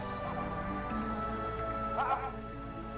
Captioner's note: phone rings